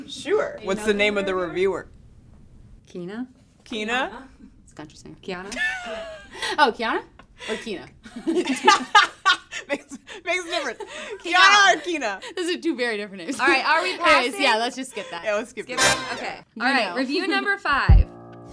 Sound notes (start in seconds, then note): 5.5 laughing; 8.1 contestants laughing